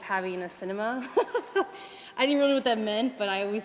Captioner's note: laughs